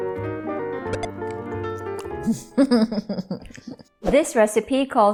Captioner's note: chuckles